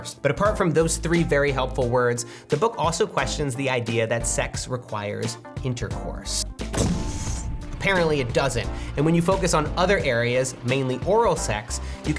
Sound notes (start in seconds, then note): 6.7 bomb exploding